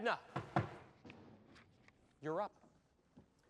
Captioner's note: taps foot